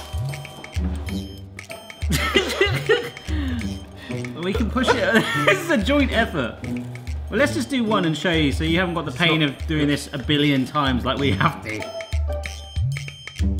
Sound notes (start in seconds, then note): 2.3 laughing